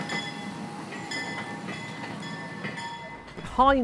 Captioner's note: locomotive bell rings